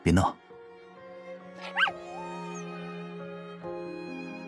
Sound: whines

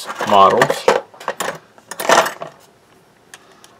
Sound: sounds of rummaging around tools

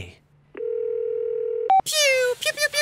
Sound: phone ringing

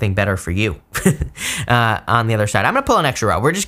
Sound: laughs

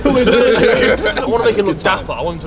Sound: both laugh

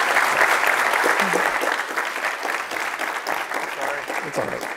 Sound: audience clapping

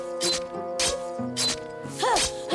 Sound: grunting

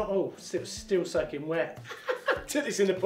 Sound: laughs

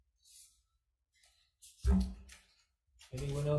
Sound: papers rustling

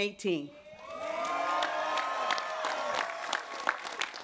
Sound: cheering

